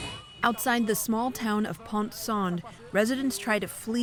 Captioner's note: voice-over